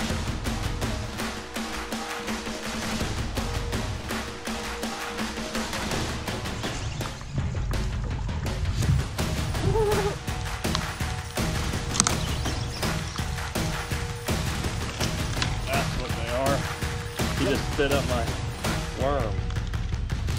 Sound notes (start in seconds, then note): 7.2 reel spinning; 9.4 laughing; 10.7 intense drumming music